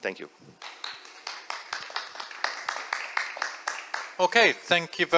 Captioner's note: applause